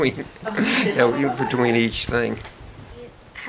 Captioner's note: laughter